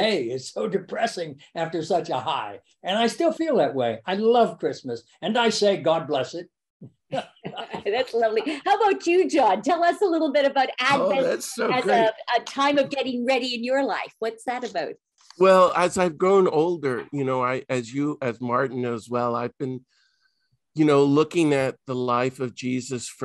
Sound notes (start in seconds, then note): 7.0 laughs